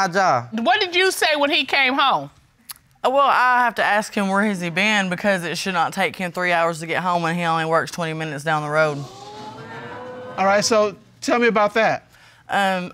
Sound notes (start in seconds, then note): 8.9 audience exclaim